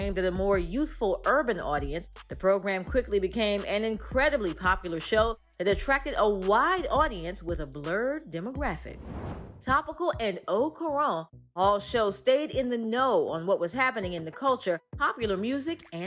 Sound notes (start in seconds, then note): 8.8 air whooshes; 9.2 upbeat music continues